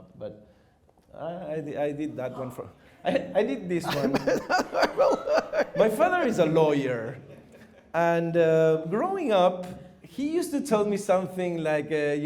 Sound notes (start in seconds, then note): 3.8 laughter